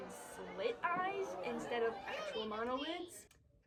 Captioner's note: crowd boos